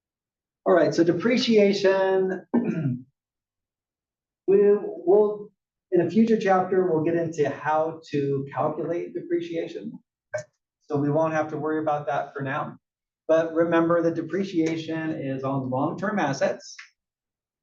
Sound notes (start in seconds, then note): 2.4 cough